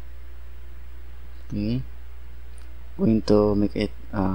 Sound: mmm

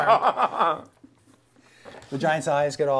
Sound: laughing

